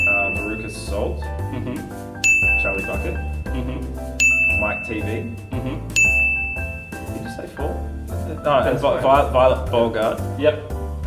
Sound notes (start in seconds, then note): 2.2 ding!